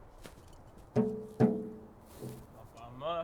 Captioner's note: knocking on exterior shell